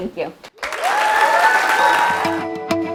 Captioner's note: applause